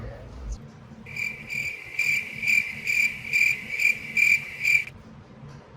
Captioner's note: crickets chirping